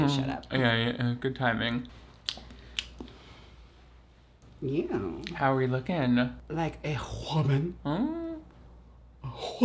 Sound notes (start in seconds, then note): 2.2 lips smack